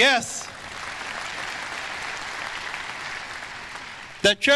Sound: audience applause

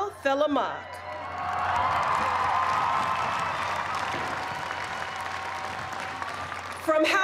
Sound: cheers and applause

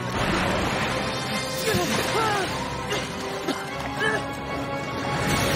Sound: coughing and spluttering

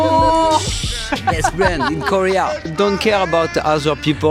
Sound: laughter

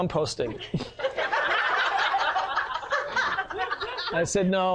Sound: sound of laughs from the audience

